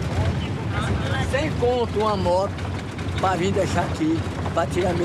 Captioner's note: Portuguese spoken audio